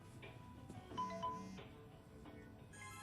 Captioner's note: phone sounder